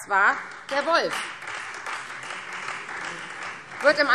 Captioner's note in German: Beifall Freie Demokraten